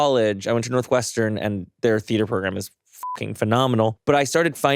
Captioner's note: beeps